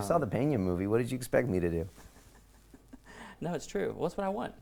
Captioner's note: laughs